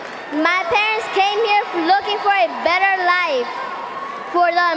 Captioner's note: cheering and applause